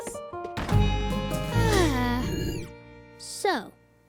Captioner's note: both sigh